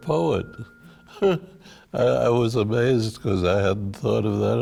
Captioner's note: laughs